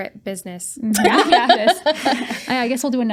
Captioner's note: laughing